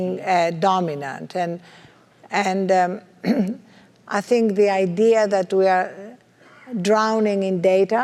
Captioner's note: cough